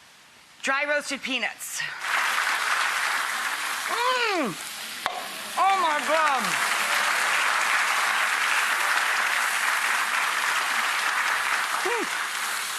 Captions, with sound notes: dry roasted peanuts. (audience clapping) Mm. Oh my God. (audience clapping)